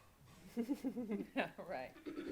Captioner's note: laughing